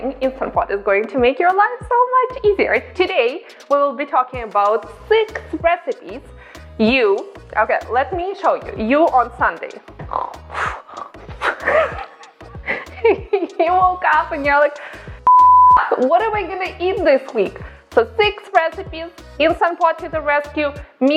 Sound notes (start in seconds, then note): 10.1 snoring; 15.2 beep